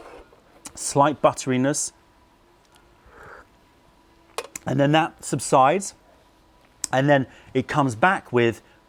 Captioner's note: sips tea